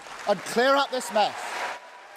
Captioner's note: cheering and applause